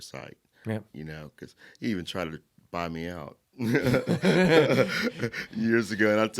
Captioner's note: laughing